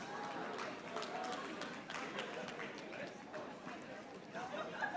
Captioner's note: audience applauding